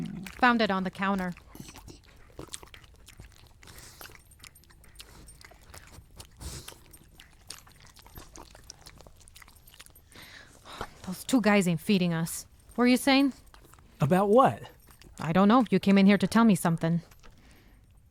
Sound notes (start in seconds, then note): 2.2 dogs lapping and sniffing